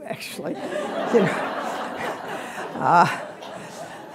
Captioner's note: laughter